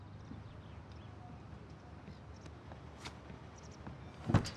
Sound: birds chirping

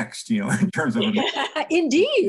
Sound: laughing

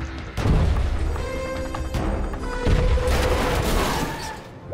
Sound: suspenseful music; booming thuds; metal crunching

